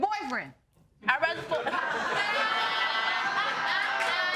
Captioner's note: audience laughing